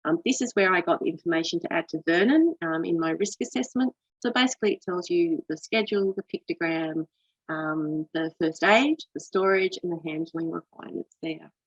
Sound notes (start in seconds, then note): none